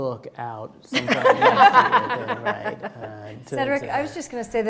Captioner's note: laughing